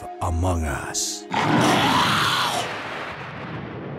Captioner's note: snarls